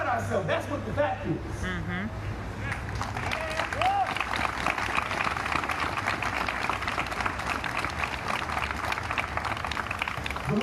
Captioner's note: audience applauds